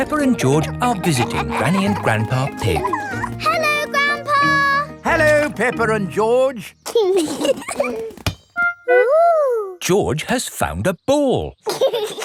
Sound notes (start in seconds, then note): 7.1 both giggling